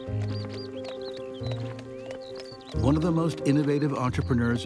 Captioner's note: horse hooves clomping